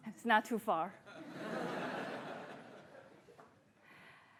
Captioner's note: laughter